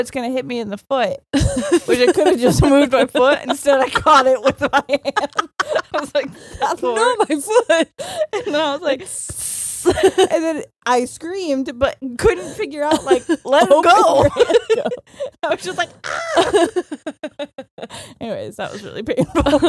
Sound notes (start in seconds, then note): 1.3 both laughing; 9.4 laughing; 12.9 laughs; 16.7 both laughing